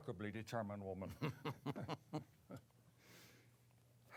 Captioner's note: chuckling